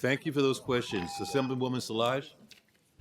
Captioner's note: timer tone